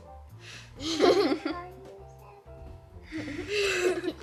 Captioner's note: laughs